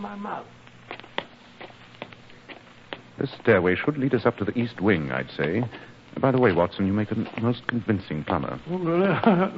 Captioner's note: steps